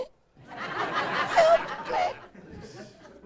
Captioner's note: laughing